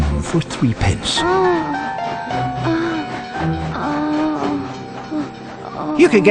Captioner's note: woman moaning